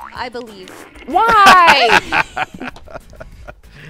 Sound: gremlin laughter

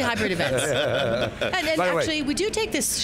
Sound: chuckling

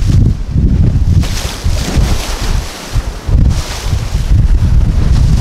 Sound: water splashing

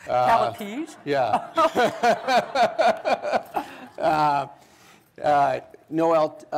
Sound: laughter

